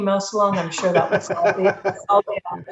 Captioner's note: laughing